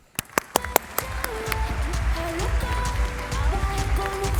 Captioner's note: applause; upbeat music